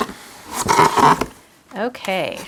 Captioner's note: box lid scratching